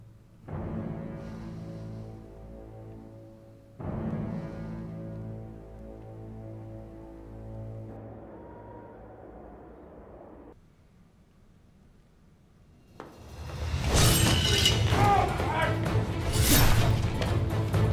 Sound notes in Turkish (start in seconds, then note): 0.1 Müzik - Gerilim; 13.8 Dövüş sesleri; 17.3 Müzik - Hareketli